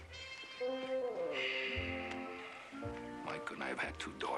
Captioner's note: sighs